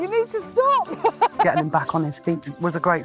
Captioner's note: laughing